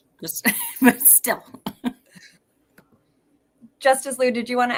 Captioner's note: chuckles